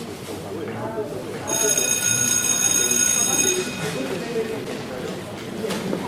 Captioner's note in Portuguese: Sinal de Escola